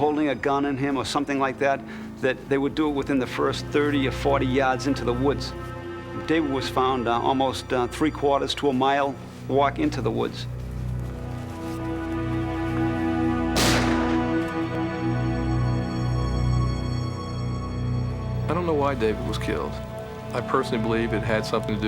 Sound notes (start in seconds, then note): 13.5 gunshot